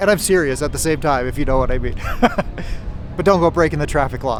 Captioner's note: laughing